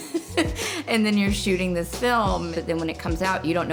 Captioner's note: laughing